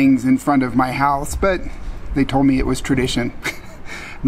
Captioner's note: laughing